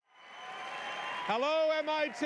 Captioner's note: applause